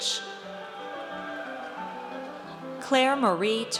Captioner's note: audience cheers